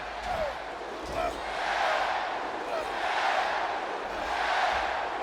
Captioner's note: audience chanting